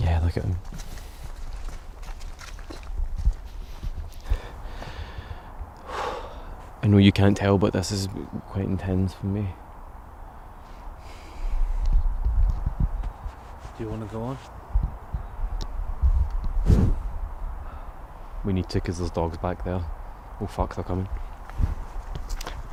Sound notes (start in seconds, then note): 5.8 exhales